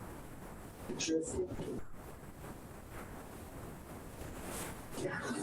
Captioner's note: speaks distorted